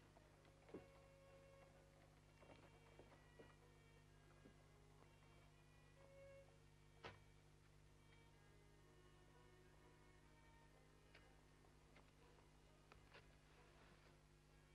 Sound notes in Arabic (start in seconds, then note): none